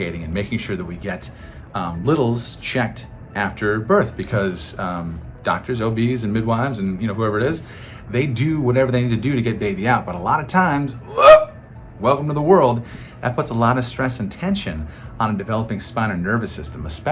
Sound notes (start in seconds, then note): 11.0 exclaiming in exertion